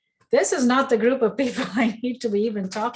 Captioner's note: chuckles